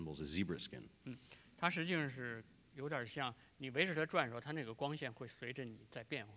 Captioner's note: speaking in Chinese